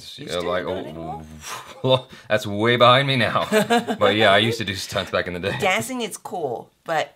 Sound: laughs

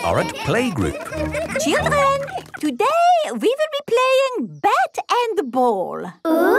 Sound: children laughing

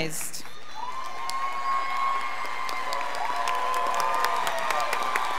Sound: scholars applauding

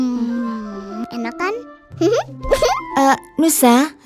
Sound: laughing

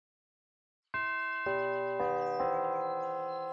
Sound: bells chime

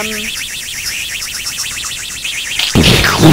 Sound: rocket engine; explosion

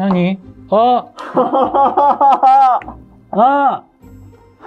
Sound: laughing

